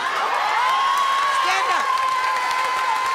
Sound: audience cheering

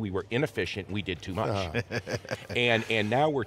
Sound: laughs

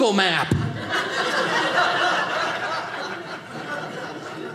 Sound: audience laughing

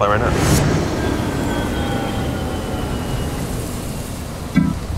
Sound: airplane engine whirls

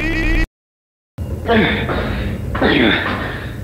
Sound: grunting

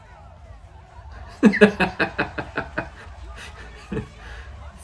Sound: laughs openly at someone's suffering

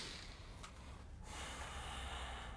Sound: breathes deeply

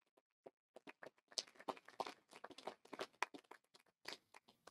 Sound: audience applauding

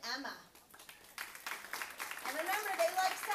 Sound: clapping

